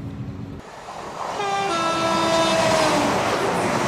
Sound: train horn

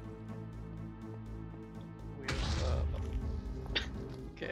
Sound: boom; laughs

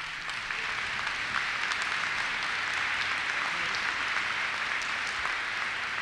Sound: applause

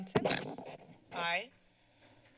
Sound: mic creaks

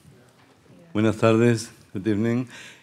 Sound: speaking Spanish

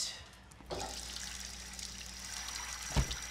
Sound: water running

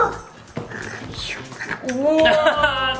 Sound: chomping

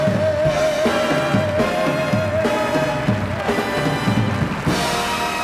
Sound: audience applauds

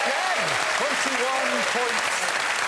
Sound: audience cheering

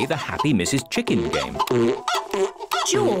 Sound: chicken clucking

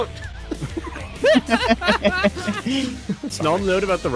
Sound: laughter

